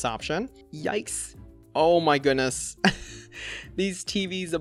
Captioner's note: chuckles